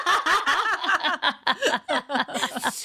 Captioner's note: laughing